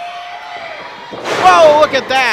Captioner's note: thud